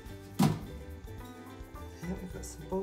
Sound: lid clatters

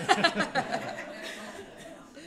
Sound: laughter

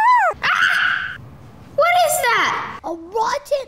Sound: laughing; shrieks

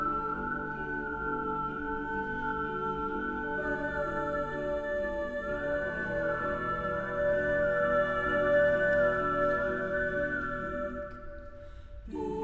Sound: tenor 2 whistling

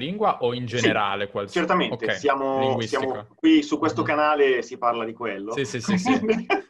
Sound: both laugh

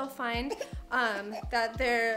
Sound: coughs

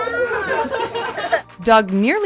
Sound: laughter

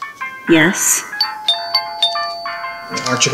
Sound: doorbell chiming

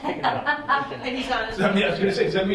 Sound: laughs

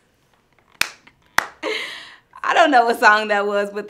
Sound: claps

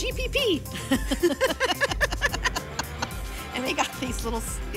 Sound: laughter

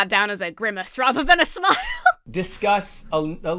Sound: laughs

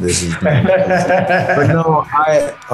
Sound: laughter

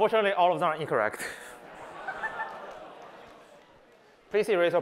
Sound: collective groan

